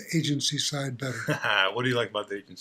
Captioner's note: laughing